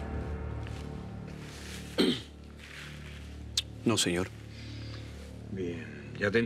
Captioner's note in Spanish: carraspea